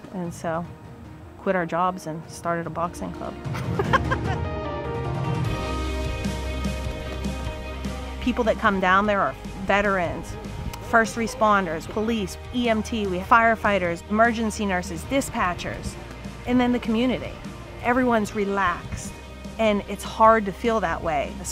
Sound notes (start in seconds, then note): 3.5 laughing; 4.0 enlightening music